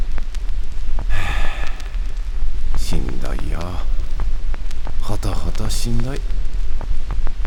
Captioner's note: sigh